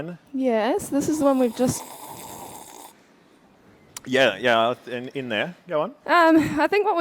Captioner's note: slurping